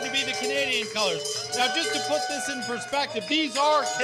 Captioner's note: cheering